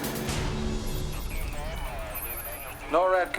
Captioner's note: gunshot; phone filter speech